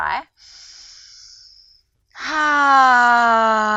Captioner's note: inhales deeply